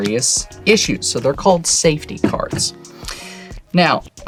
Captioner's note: thumps deck on table